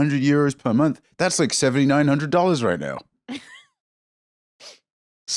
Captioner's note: laughs